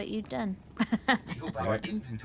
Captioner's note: laughs